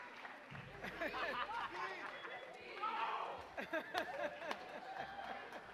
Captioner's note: audience cheering; people laughing